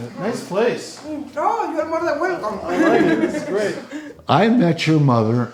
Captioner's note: speaking foreign language